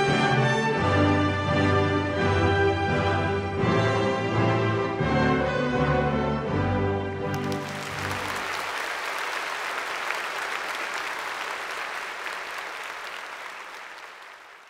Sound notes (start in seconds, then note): 0.0 mellow music; 7.2 applause